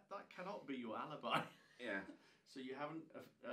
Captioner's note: laughing